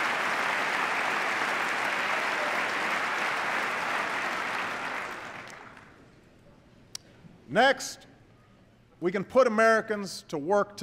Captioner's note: applause